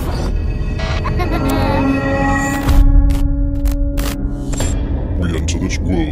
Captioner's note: suspenseful music; child laughing; static crackling